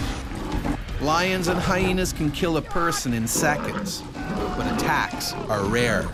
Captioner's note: voiceover